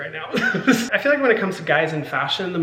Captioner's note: Hyram giggling